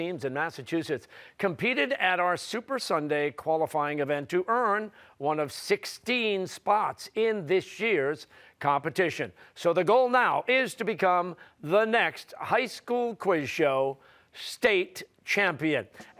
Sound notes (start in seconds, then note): none